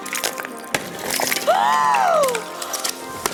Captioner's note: ice crunching; gasps; ice crunching